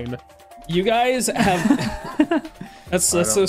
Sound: scattered laughter

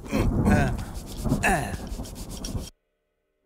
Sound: rain Sound

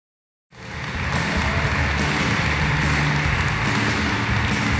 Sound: applause

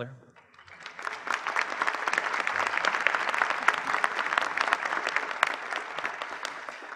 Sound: applause

